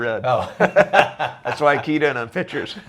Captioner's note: laughs